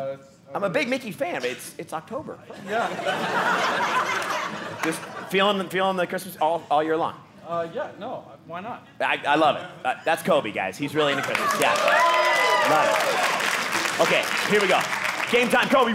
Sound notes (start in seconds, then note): 2.5 audience laughing; 11.1 audience cheering